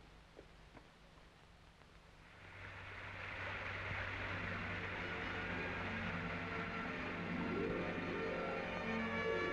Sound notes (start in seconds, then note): 2.3 water splashing; 2.6 suspenseful music